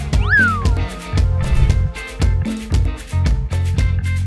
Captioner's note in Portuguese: som de apito deslizante; Efeito sonoro de transição; Música ao fundo